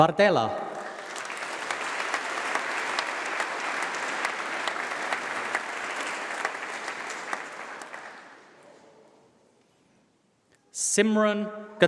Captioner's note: applause